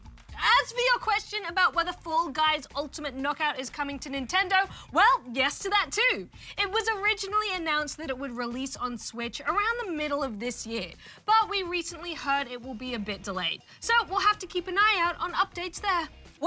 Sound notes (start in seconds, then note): none